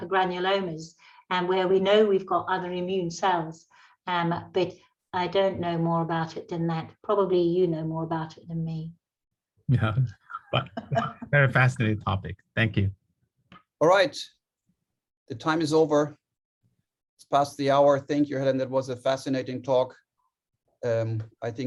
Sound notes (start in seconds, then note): 10.4 laughter